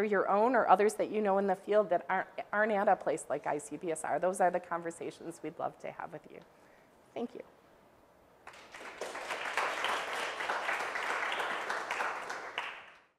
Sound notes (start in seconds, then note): 11.9 applause